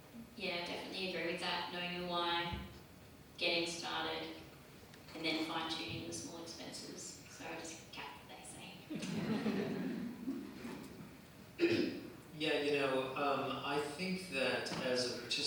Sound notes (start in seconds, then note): 8.9 laughter